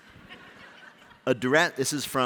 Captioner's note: laughter